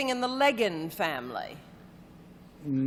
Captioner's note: none